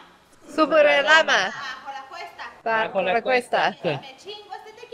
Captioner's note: speaking in Spanish